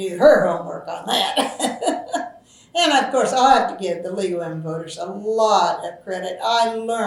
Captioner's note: laughs